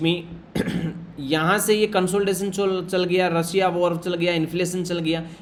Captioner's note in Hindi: गला साफ़ करने की आवाज़